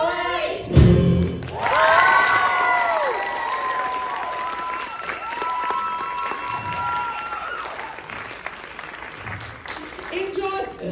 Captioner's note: applause